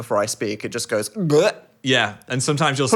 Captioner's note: gulping